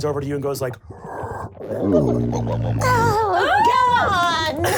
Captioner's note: gurgles